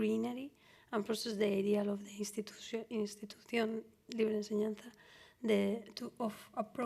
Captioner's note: spanish